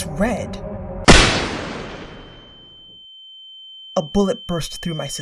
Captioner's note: bang